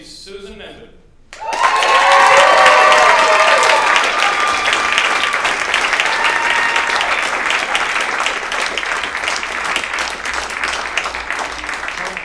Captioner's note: applause